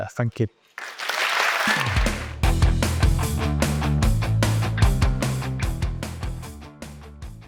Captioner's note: audience applauds; bright upbeat music